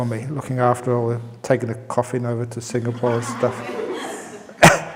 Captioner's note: laughs